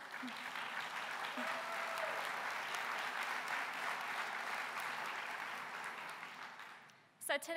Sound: applause

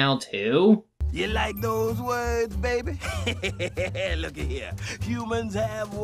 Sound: laughs

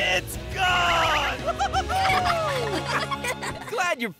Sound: cheering

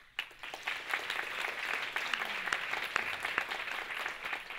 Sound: audience claps

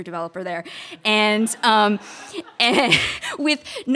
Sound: audience laughter

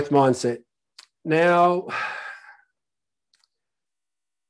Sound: sighs

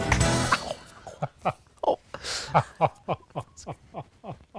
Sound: laughing

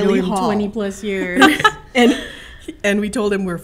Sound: laughs

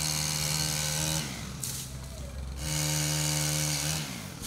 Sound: chainsaw buzzing

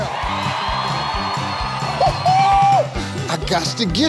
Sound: people applauding

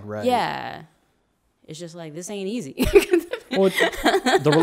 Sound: laughs

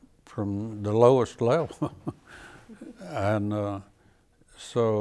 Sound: chuckles

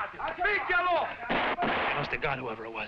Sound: guns firing

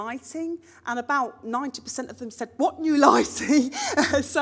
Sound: laughs

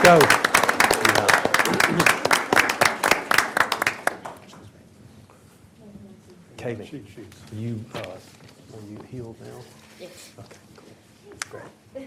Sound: applause

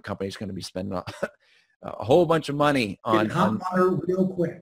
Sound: chuckles

